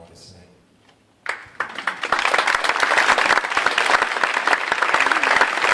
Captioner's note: audience applauding